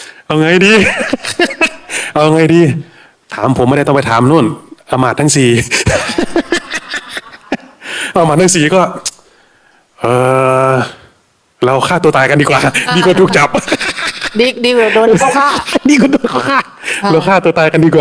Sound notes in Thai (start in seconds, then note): 0.9 เสียงหัวเราะ